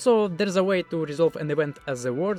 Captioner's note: none